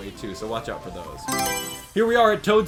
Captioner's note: Mario Selection Sound